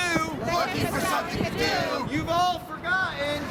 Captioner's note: crowd Responds